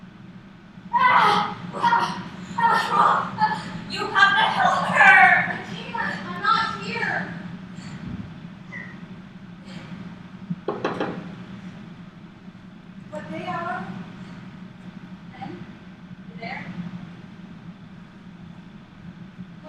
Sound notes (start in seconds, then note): 1.0 pained groaning; 10.6 knocking